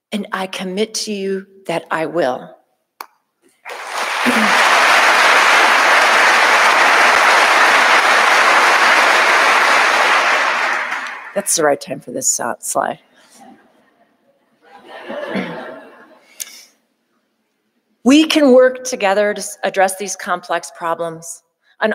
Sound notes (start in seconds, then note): 3.6 audience applauding; 14.6 audience laughing